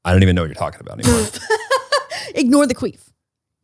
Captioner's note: laughs